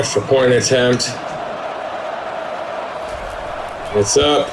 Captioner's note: crowd Noises